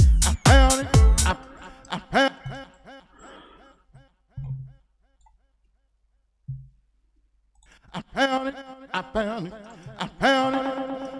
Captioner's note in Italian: Risate